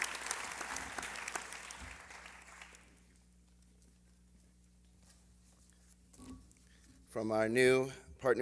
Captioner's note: applause